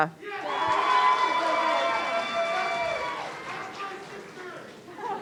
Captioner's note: audience cheering